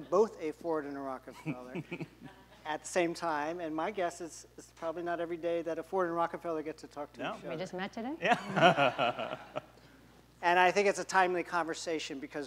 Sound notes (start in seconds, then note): 8.2 laughs